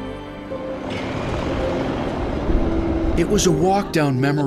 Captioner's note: gentle music; train rumbling